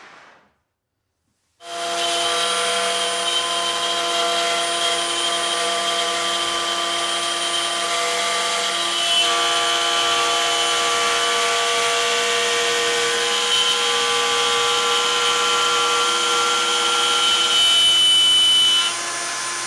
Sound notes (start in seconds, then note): 1.7 saw whirring